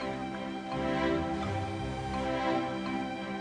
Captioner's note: tugboat horn off screen